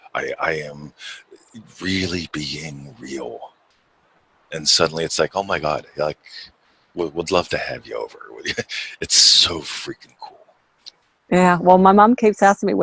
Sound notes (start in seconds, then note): 8.2 chuckles